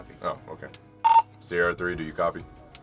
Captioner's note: intercom beeps